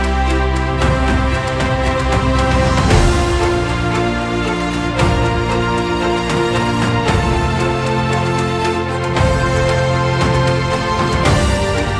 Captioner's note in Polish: Aplauz